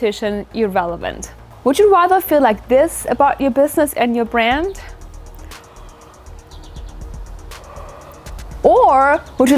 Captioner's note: yawn